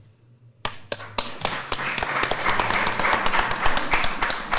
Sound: audience applauding

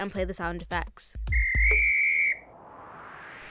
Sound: whistle

